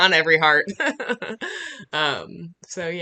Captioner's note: laughing